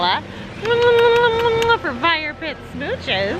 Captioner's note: kissing at Christopher